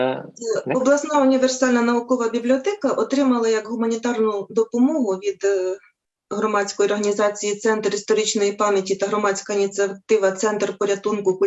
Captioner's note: foreign Language